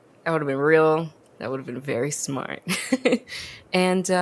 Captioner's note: laughs